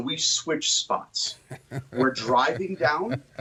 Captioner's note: laughing